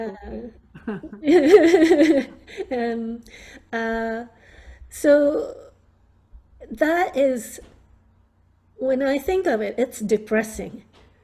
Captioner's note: laughing